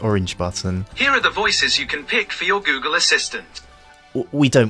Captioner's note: google voice